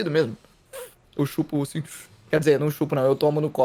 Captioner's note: fshh